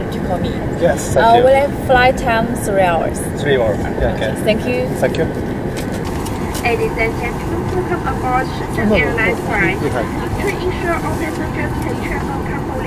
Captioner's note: laughs; laughs